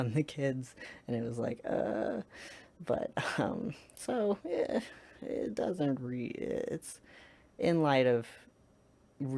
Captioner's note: uncomfortable noises